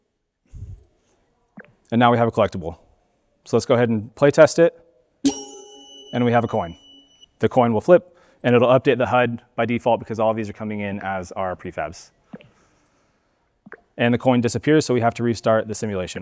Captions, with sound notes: And now we have a collectible. So let's go ahead and play test it. (bell ringing) And we have a coin. The coin will flip and it'll update the HUD by default because all of these are coming in as our prefabs. And the coin disappears, so we have to restart the simulation.